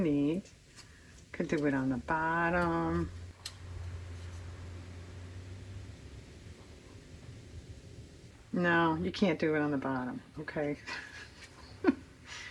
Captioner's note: laughs